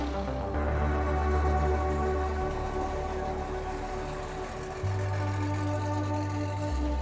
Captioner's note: engines idling